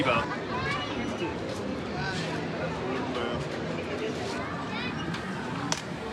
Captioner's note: soft chattering in background